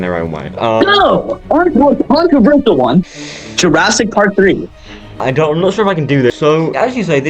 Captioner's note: inhales nervously